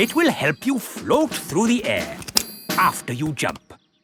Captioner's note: clicking